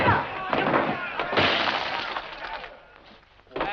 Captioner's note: smash